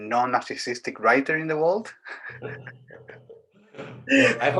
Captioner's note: giggles